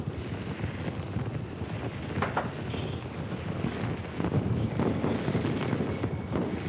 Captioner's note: fire crackling, explosions popping